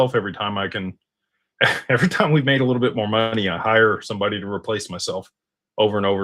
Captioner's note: snorts